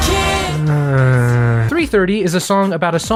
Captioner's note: groans disapprovingly